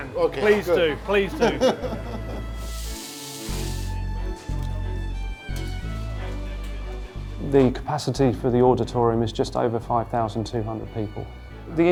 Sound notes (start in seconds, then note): 1.3 laughs; 2.6 meat sizzling